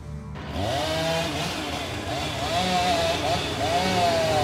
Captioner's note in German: Motorsägen Lärm